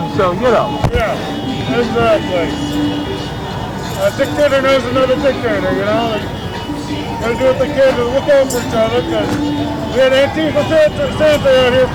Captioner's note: crowd cheering